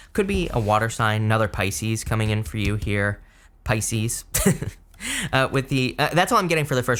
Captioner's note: chuckles